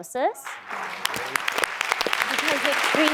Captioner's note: applause